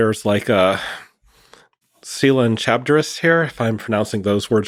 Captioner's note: speaking foreign language